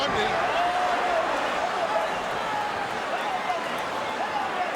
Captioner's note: crowd murmuring